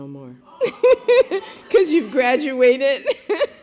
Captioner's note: laughter